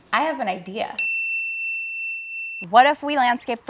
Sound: bell dinging

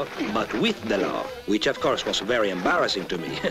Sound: chuckles nervously

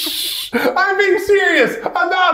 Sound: shushing; laughing

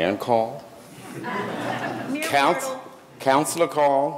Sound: audience laughing

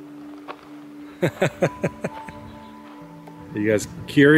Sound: laughs

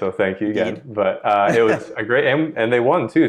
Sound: laughs

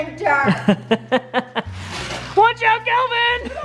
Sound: laughing

